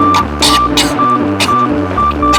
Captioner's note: choking